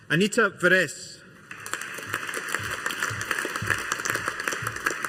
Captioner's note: audience applauding